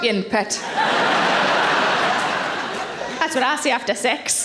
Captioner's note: audience laughing